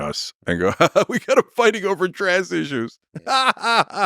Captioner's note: laughs